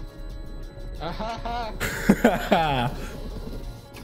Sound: forced laughing at awful dad joke

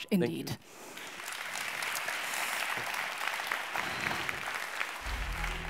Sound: audience applauds

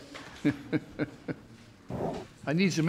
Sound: chuckles; laughs

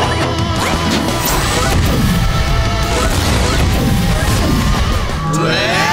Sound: turbos turning on

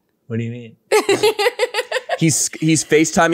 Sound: laughs

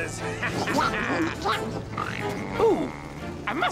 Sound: thumping

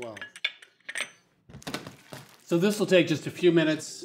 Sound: sizzling softly

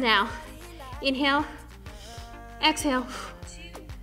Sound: breathing out; upbeat music

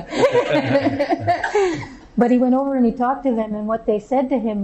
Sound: laughter

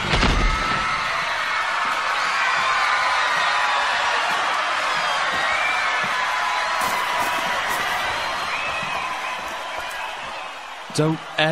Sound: cheering crowd

